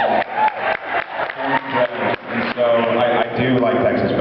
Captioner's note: cheers, applauds; applauds